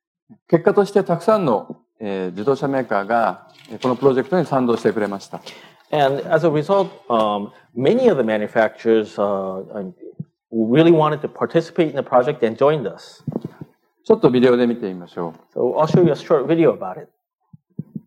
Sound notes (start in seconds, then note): 3.1 speaking japanese; 14.7 speaking japanese